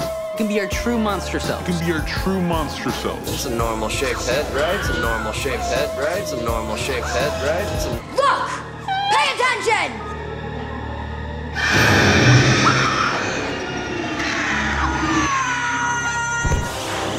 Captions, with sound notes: - We can be our true monster selves. - We can be our true monster selves. That's a normal shaped head, right? That's a normal shaped head, right? That's a normal shaped head, right? Look, pay attention! [hissing] [screaming]